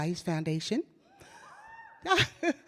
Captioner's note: audience cheers; laughs